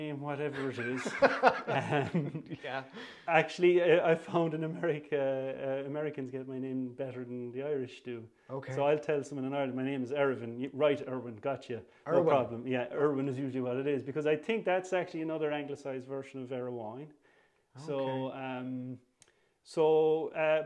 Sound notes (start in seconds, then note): 0.5 laughter